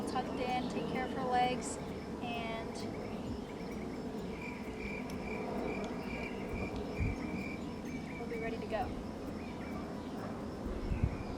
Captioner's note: crickets